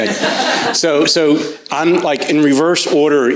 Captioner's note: crowd chuckles